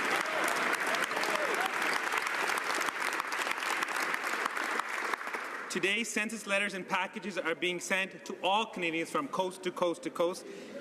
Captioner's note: some Applause